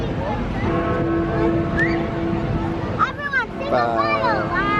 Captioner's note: children muttering excitedly; bell chiming